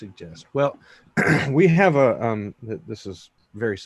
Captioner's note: clearing throat